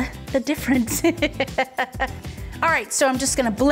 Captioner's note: laughing